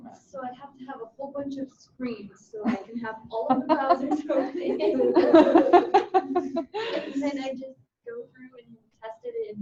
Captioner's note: laughter